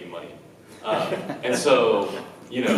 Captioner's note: laughs